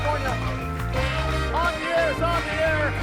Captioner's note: audience applauds